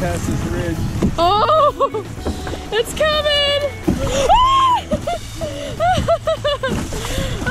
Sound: shrieks

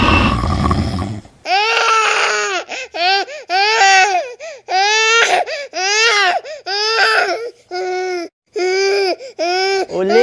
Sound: A child is crying

